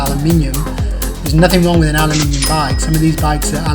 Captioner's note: dings